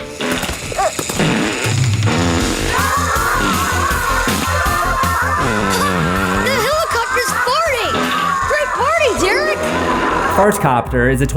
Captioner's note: fart noises; kids cheering